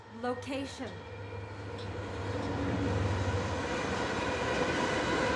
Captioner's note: bart train passing